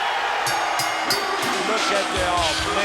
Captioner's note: bell rings